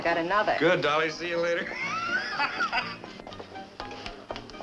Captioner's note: laughing